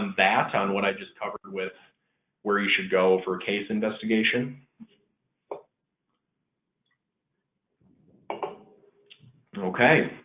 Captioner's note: silence